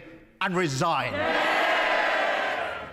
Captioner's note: cheering and applause